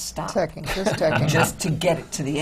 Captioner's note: laughter from the panel